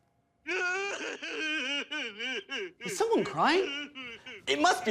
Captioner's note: indistinct bawling